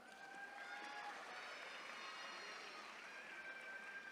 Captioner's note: attendees cheering